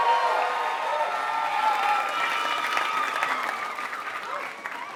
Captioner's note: applause